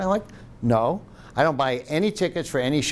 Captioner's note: none